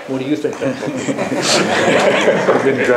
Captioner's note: laughter